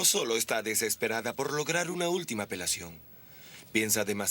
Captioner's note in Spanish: none